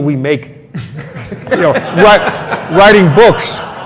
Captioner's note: laughs